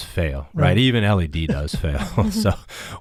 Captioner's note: panelist laughs